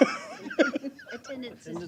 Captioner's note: laughter